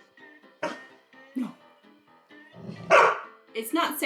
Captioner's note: barking